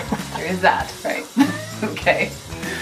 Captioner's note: laughs